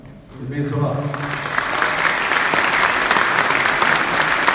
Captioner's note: audience claps